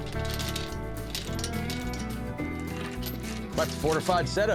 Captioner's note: chain clinks